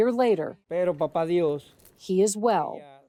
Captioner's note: patient speaking in foreign language